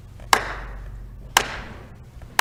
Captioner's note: clap